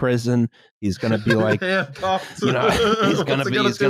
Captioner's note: laughs